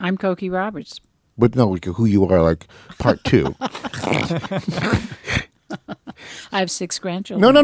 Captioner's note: laughs